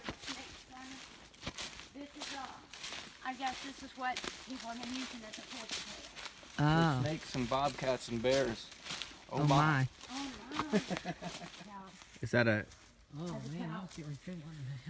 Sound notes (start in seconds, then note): 6.6 chatter